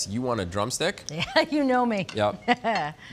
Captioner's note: chuckles